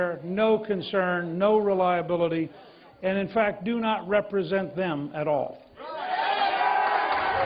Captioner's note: cheers and applause